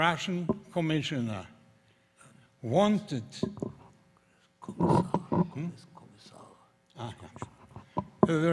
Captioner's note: whispering